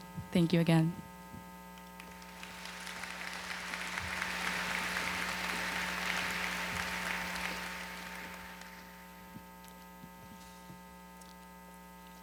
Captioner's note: applause